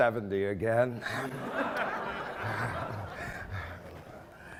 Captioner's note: laughing